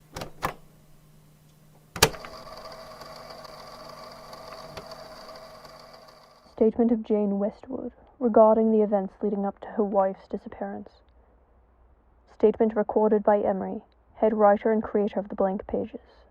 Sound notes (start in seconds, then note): 1.8 tape recorder clicks on; 1.9 whirring